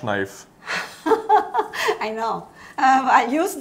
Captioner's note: laughs